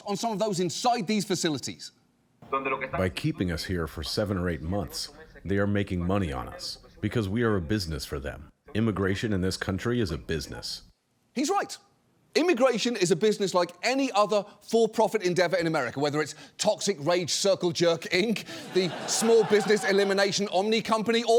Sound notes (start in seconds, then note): 2.3 speaking in spanish